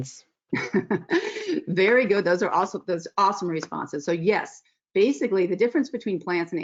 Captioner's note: laughs